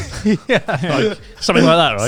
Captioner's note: chuckling